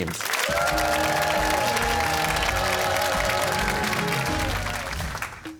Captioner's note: cheers and applause